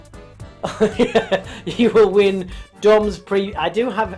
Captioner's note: laughs